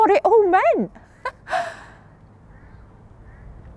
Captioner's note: chuckles